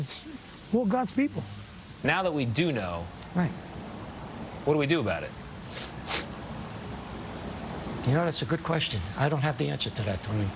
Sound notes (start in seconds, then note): 5.6 sniffles